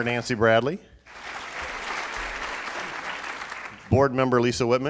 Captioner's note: applauding